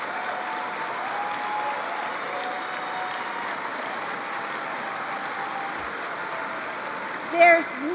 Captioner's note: applause